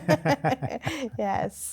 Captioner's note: laughing